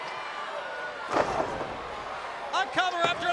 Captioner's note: body thuds